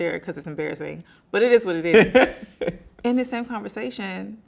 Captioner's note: laughing